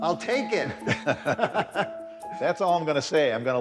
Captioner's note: men laughing